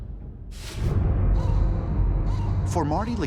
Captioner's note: crow calling